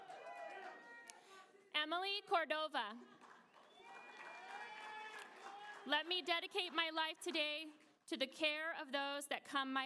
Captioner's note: applause